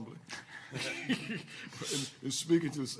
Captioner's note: laughing